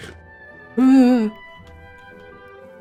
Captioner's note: sound of fear